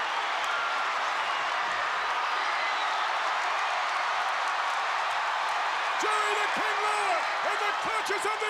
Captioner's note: applause